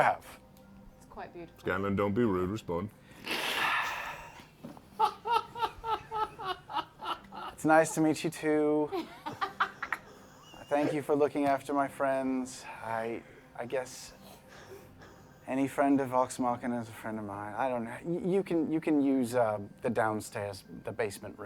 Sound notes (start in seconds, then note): 3.1 sighs